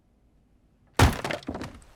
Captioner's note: logs clattering; wood splitting